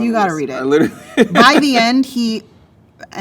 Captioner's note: laughs